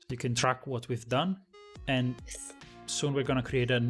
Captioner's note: none